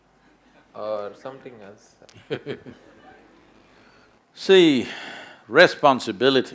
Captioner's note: Sadhguru laughs